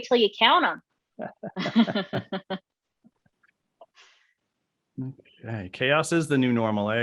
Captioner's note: laughing softly